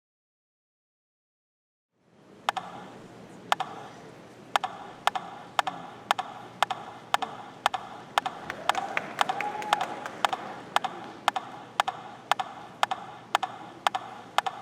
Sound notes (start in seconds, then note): 4.5 rhythmic tapping; 10.3 audience clapping